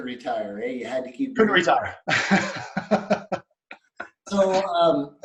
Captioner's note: laughs